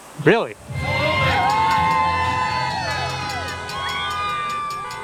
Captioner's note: crowd cheers